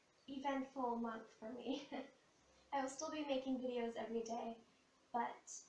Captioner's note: laughter